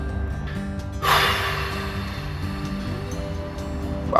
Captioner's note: exhale